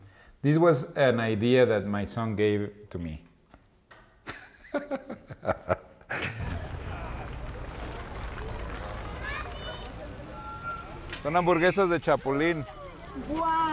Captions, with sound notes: This was an idea that my son gave to me. [laughs] — They're cricket hamburgers.